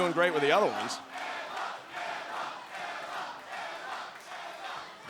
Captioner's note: fans chanting